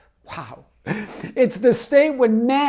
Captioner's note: laughs